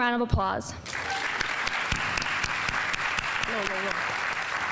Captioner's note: audience applauding